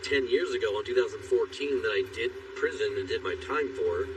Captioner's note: spking